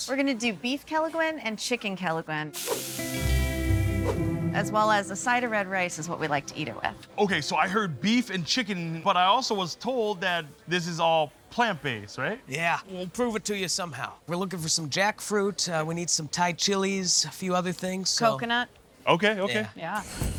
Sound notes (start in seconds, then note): 2.5 dish sizzling